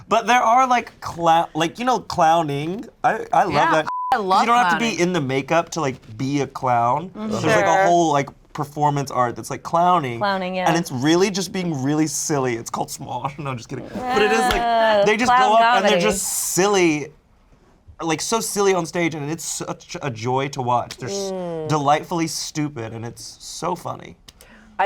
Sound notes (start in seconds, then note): 3.8 beep; 13.8 laughing